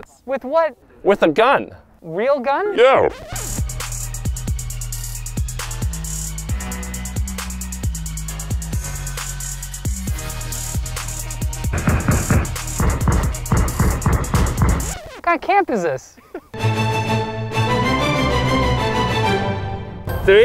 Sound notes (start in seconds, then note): 3.8 upbeat music; 11.7 gun banging